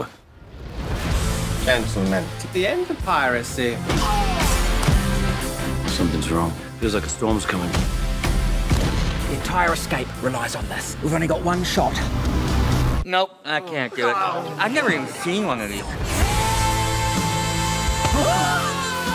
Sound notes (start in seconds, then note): 4.4 groans; 14.0 people grumbling